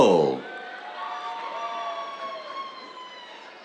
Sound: cheers

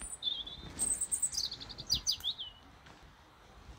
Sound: birds chirping

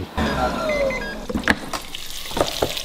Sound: buttons beeping; chicken frying; lid popping

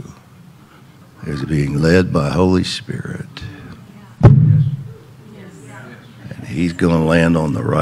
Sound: hand thumps

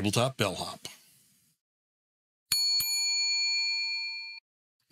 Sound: bell dings

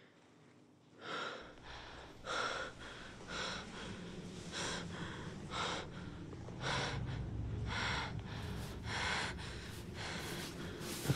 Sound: panting

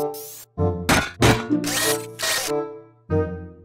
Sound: stomping, Whirring

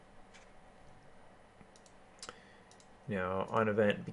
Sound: keyboarding

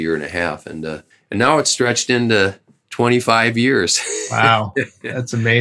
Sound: laughter

